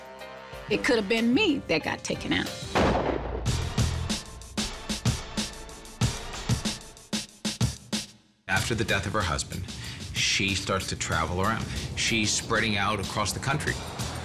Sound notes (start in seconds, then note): 2.5 upbeat percussive music plays; 2.7 gunshot